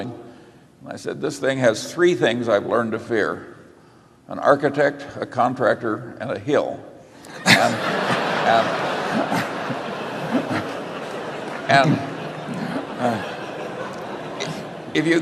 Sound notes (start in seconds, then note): 10.7 laughter